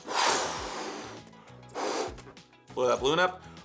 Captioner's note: air blows